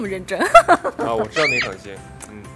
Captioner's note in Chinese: 哈哈哈哈